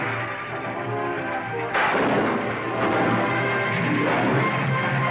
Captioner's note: gunshots